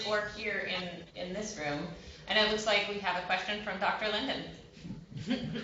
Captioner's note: laughter